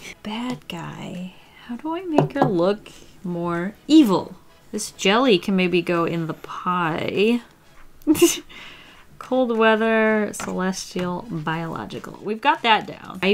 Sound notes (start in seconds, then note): 7.9 laughs